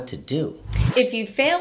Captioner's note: wind whooshing